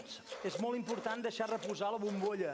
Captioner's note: non-english speech